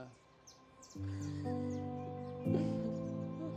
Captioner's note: laughing